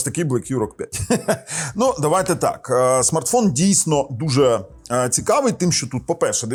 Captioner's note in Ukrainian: сміх